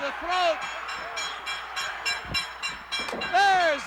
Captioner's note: metal clanging